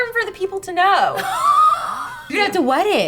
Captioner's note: laughing